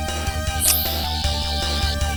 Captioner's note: sonic screwdriver whirring